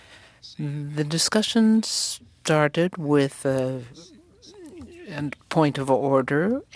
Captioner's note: speaking french